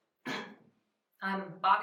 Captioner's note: clears throat